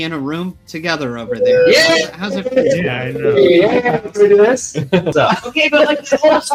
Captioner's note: cheering